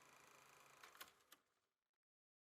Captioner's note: film projector stops